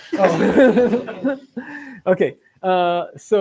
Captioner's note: laughter